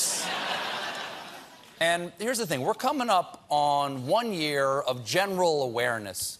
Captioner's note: laughter